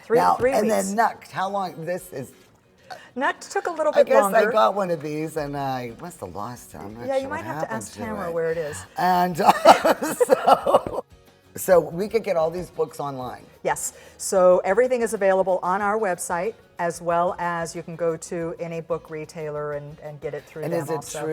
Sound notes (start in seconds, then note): 8.6 laughs